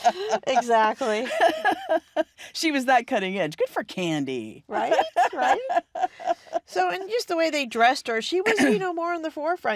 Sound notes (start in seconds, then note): 4.8 laughing